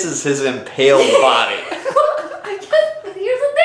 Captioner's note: both laughing